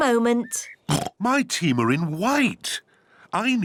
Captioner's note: oinks